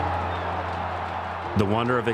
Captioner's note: crowd cheering